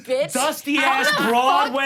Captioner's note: laughs